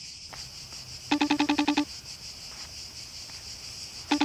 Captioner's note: cicadas in background; Face time ringing tone